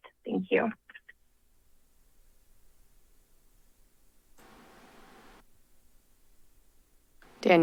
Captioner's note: silence